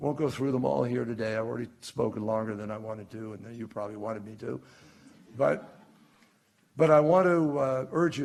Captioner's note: laughter